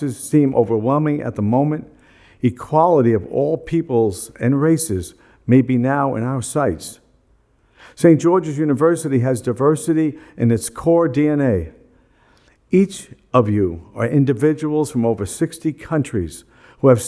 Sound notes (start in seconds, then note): none